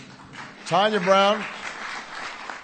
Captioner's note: applause